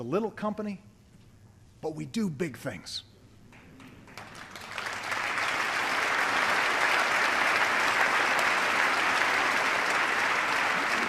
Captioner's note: applause